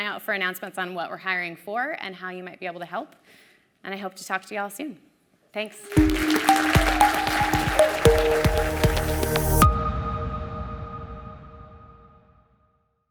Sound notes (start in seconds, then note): 5.6 applause